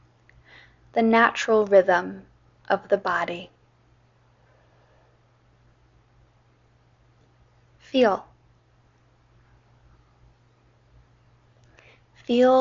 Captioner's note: inhale, exhale